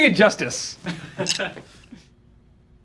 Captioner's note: laughing